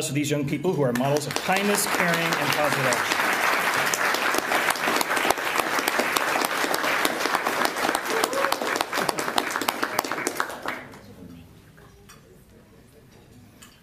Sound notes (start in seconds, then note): 3.2 applause